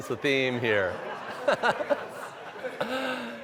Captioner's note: laughter